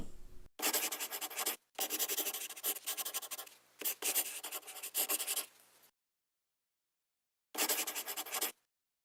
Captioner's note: scribbling